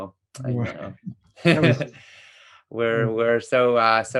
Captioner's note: both chuckle